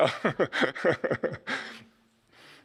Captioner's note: laughs